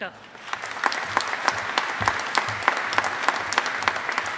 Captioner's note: audience applauding